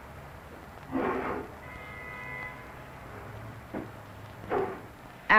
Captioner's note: room noise, street noise. Dog barks